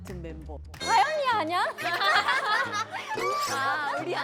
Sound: haha

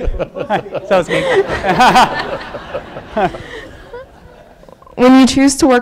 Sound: laughing

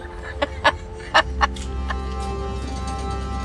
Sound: laughs

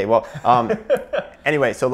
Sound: laughing

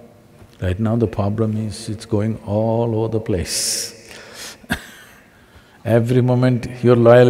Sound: laughs

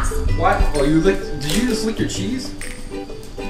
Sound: voiceover

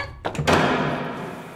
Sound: door slam

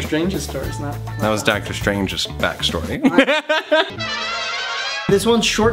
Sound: laughs

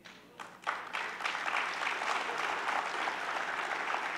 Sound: audience clapping

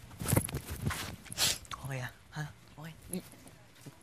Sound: sniffs

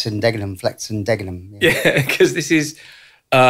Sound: laughter

